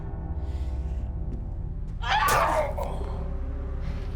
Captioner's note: Colette shrieks; Lee groans